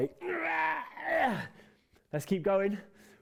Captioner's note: grunting